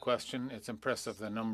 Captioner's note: speaking French